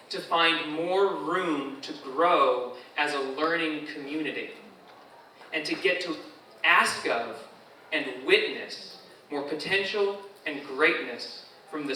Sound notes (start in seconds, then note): none